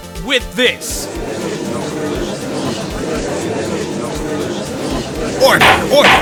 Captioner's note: gallery chattering